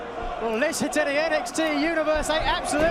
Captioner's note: fans chanting